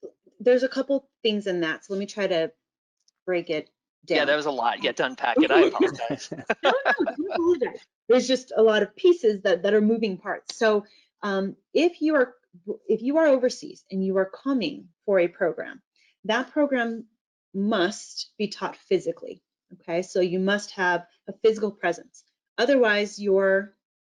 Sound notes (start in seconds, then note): 5.3 laughter